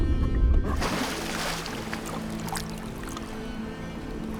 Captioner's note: water splashing